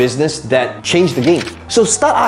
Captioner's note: paper rustling